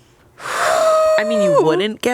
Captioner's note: exhales